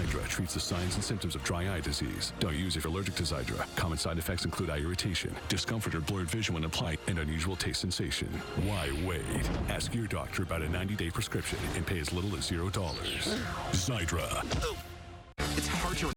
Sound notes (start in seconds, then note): 13.2 grunt